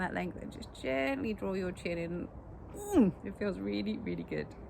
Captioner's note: groans